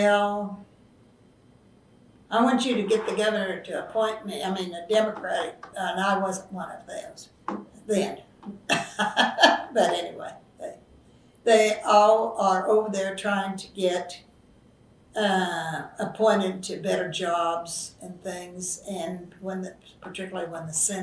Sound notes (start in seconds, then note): 11.1 laughs